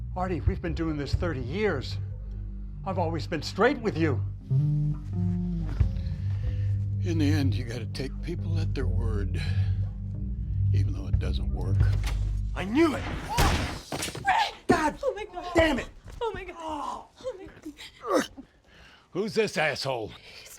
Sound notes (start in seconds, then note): 12.9 loud bang